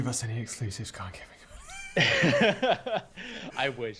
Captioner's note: laughing